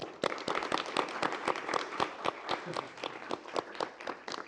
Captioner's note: applause